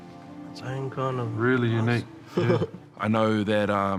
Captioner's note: chuckles